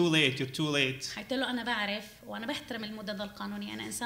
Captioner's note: speaking arabic